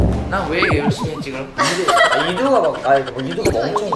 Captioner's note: confused